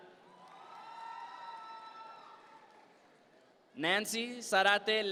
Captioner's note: audience members cheer